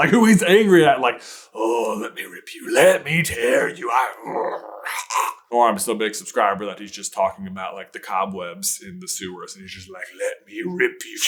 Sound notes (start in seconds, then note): 3.3 growl and snarl